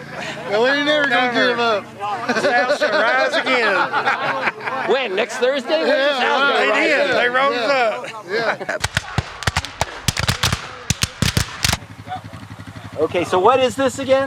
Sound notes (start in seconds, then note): 2.1 people laughing; 8.8 gunshots cracks